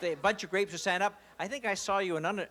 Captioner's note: laughter